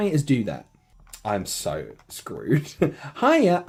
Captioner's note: small chuckle